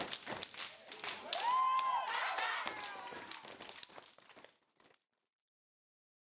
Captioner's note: applause